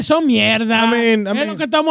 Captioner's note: speaking In Foreign Language